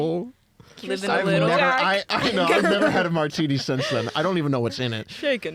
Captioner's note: laughs